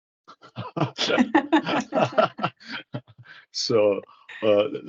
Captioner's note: all laugh